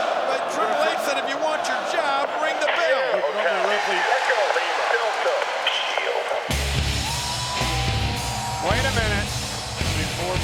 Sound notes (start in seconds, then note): 6.7 upbeat music; 8.4 audience cheers